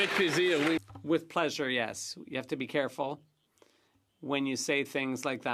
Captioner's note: some Applause